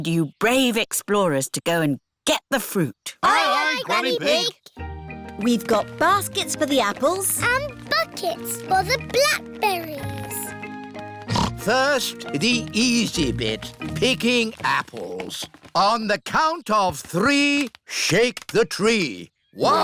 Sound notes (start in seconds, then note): 11.2 snorts